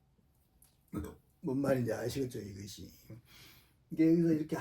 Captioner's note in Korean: 목을 가다듬음